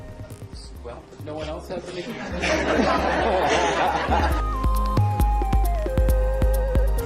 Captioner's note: laugh